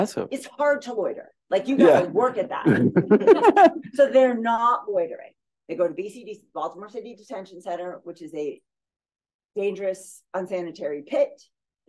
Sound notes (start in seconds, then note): 2.6 laughter